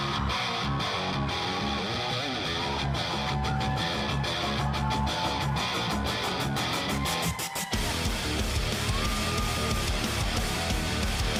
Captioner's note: crowd cheering